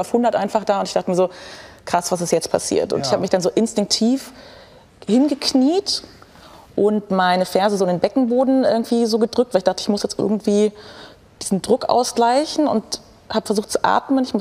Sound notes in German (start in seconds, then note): none